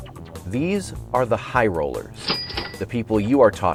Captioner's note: cash register ringing